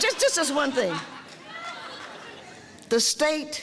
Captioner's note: audience laughter